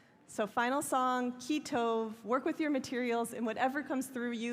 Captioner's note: hebrew